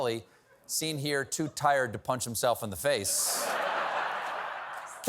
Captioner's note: laughter